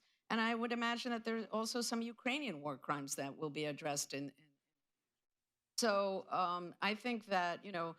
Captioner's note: off mic